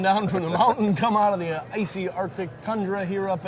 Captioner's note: chuckling